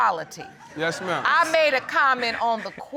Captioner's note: audience laughs